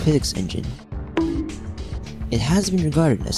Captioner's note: bonk